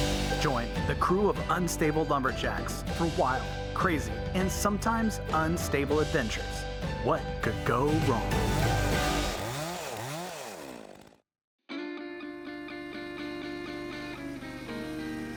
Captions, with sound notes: Join the crew of "Unstable Lumberjacks" for a wild, crazy, and sometimes unstable adventures. What could go wrong? (saw buzzing) (relaxed music)